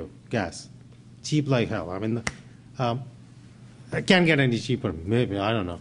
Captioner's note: snaps